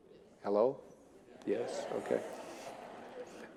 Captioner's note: audience laughing